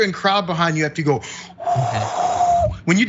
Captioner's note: laugh